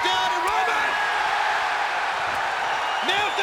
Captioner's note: audience cheering